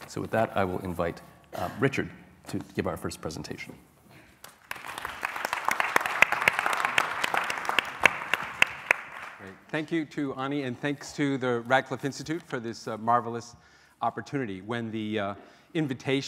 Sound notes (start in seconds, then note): 4.4 applause